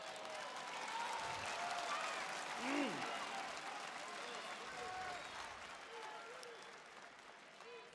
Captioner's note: applause